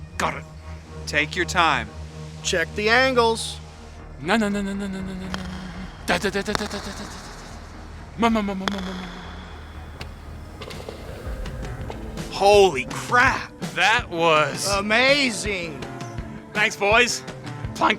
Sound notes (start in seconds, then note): 5.2 golf Club Taps; 10.2 ball Drops With A Boom!